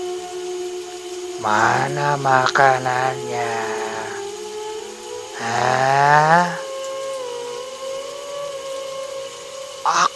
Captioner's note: applause